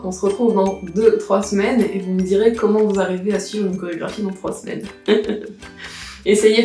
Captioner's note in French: rire